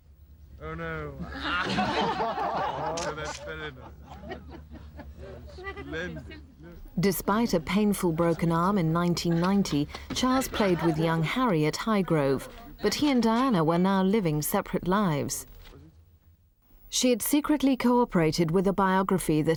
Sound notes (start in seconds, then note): 1.0 people laughing